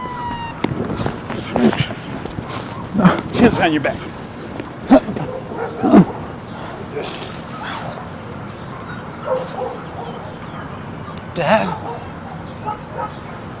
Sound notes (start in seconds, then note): 0.0 siren wails; 0.9 pattering footsteps; 4.8 suspect grunts; 10.0 distant dog barks